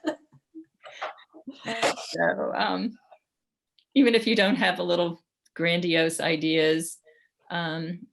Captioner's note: laughter